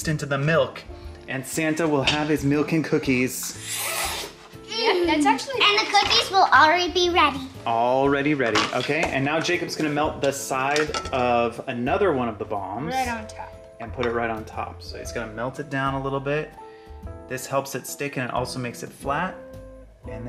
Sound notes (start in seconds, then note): 3.6 slurps